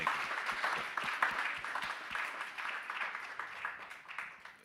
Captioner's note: audience applauding